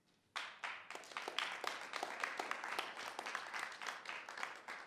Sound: audience applauding

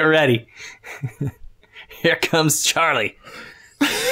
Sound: laughter; chuckles

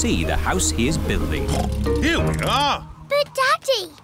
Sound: oinks

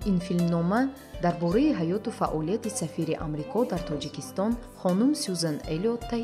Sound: journalist narrating in tajik

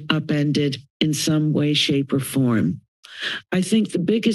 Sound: inhales

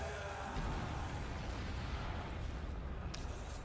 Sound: screams

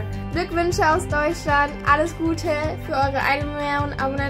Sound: in foreign language

